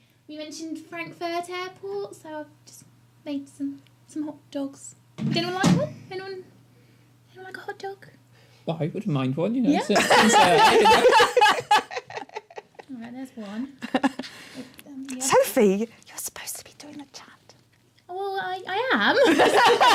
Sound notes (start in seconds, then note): 9.8 laughter; 15.7 whispering; 19.1 laughter